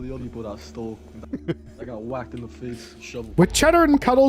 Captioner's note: laughs